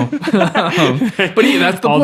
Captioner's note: all laughing